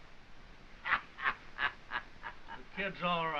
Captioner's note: laughing